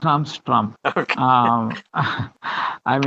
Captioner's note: both laughing